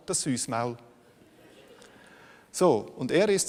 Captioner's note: laughter from the audience